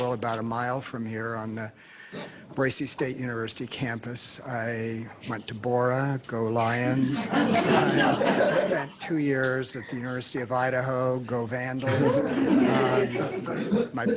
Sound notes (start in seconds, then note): 6.9 laughter